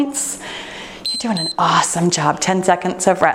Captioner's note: timer beeps